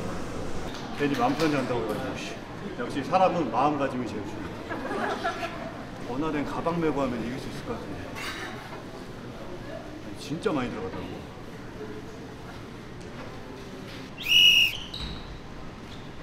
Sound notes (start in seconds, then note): 4.6 audience laughs